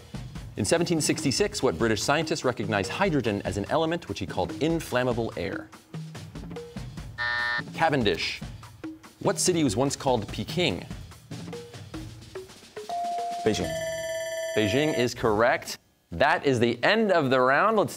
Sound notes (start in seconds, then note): 7.2 buzzer sounds; 12.9 bell ringing